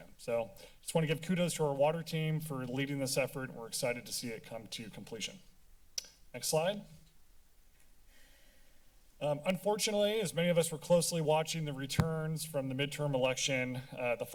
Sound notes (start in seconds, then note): 6.0 tongue clicking; 7.4 silence